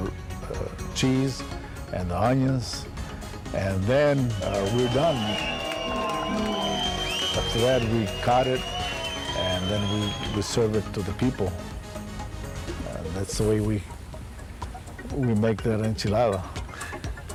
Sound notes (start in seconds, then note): 6.1 clapping, cheering and whistling